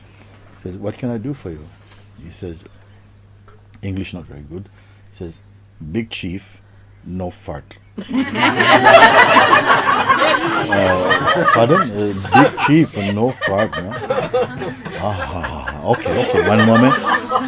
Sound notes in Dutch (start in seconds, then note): 7.9 Gelach; 14.0 Gelach